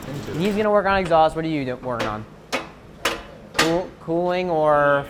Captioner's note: metal clinking